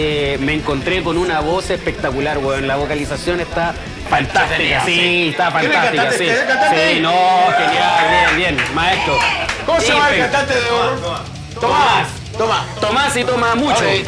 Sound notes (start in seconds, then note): 5.7 cheers